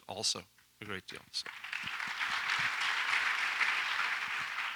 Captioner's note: audience applauds